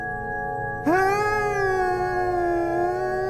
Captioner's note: laughs manically